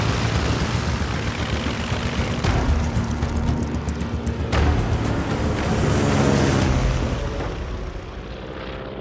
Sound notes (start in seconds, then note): 0.0 airplane engine roaring to life; 3.2 plane engines roaring overhead